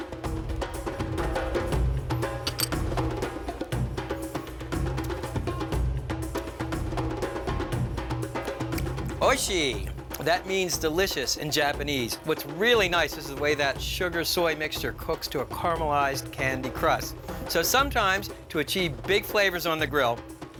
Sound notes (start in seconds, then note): 1.4 upbeat drum music continues; 9.3 speaks Japanese